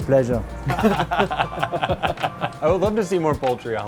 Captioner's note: laughs